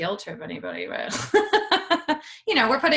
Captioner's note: laughing loudly